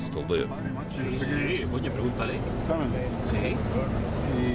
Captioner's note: speaking Spanish